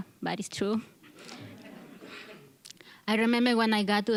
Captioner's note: audience chuckling